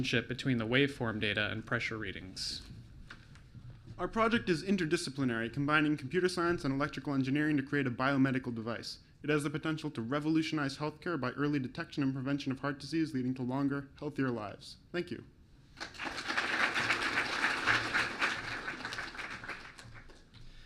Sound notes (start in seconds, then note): 15.8 clapping